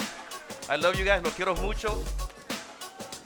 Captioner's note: speaking in Spanish